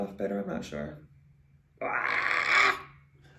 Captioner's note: shrieks